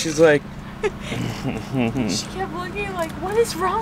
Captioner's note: chuckling